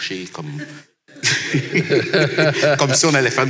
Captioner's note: laughs